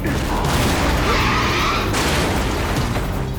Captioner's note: explosion booms; tires screech; metal crunches